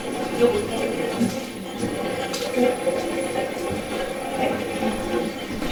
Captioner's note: static playback transmitting